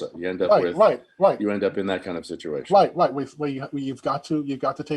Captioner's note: none